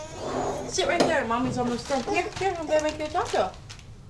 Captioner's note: fussing